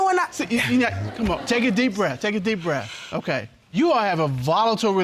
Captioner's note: inhales